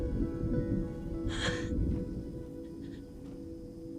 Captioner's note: chuckles